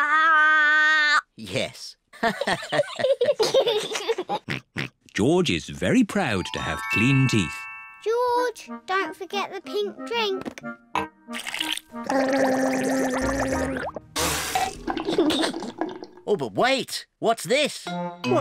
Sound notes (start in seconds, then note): 2.2 all laugh; 12.0 gargles